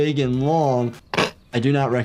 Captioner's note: character laughs